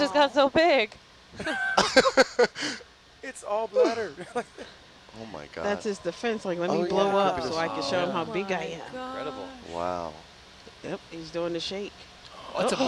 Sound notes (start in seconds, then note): 1.3 man laughs; 4.7 laughs